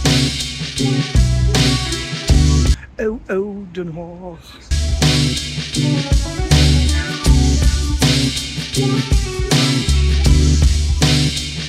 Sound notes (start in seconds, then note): 2.7 random Hagenees sounds